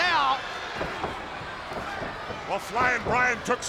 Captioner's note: Stunning Steve stomping